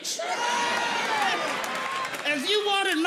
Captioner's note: audience laughing